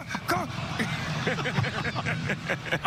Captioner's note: laughter